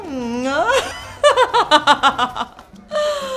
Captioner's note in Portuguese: risadas